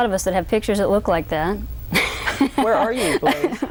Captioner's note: laughs